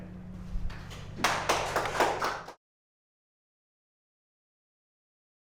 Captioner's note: applause